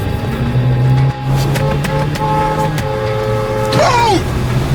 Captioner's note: car horn honking